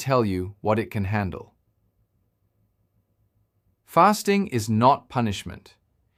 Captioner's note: pause